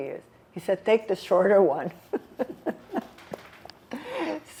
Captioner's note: laughing